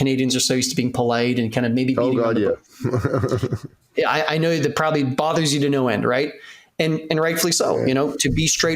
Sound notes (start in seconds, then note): 2.2 laughs